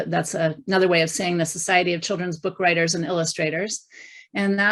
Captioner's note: none